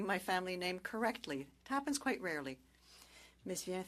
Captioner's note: speaking French